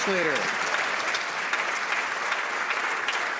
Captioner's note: some Applause